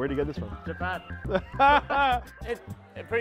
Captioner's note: laughter